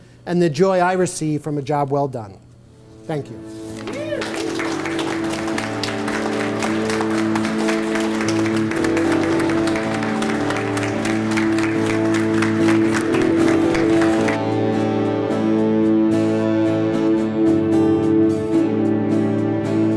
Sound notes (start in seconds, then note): 5.3 audience applauds; 8.5 guitar music plays